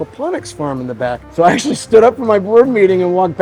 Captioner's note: chuckling